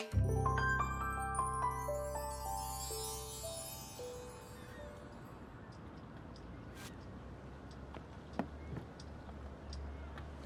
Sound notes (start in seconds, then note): 0.0 music fades; 5.9 seagulls squawking